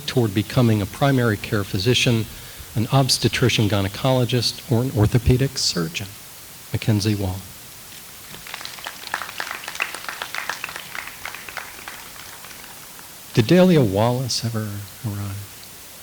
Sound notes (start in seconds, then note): 8.2 audience applauds